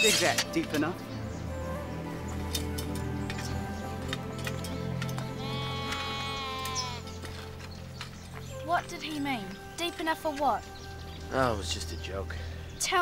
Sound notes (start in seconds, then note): 2.4 dramatic music; 5.3 sheep bleats